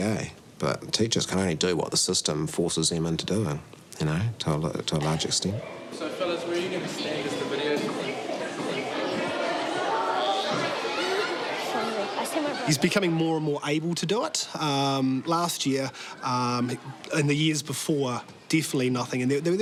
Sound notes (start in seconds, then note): 10.0 kids chatter excitedly